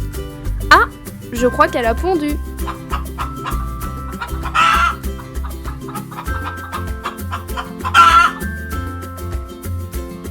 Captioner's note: the hen cackles